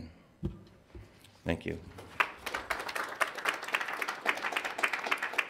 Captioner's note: audience applauds